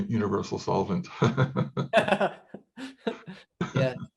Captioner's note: laughing